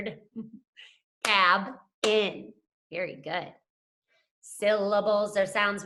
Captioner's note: clapping